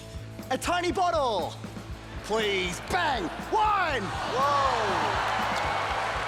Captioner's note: cheering